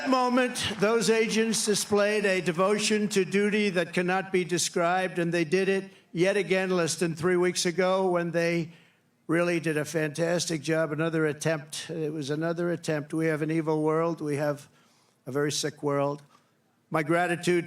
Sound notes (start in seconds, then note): 2.4 cheering; 3.9 applause